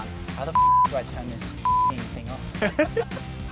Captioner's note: beep; laughs